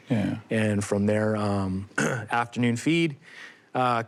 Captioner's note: ahem